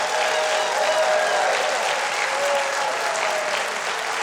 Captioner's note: crowd cheering